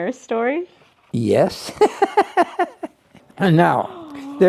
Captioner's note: laughs